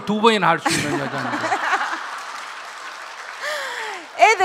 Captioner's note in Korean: 질문자와 청중 웃음